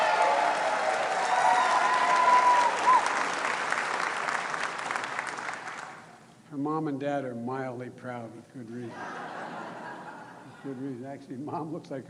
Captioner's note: applause